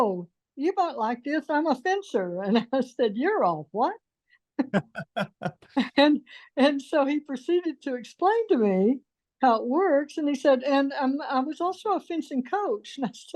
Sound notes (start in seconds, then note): 4.6 laughs